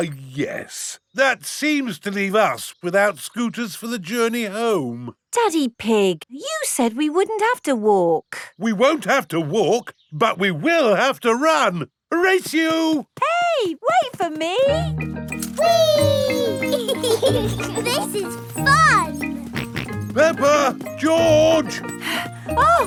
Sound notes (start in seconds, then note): 15.6 both laughing; 19.5 george snorts; 21.6 panting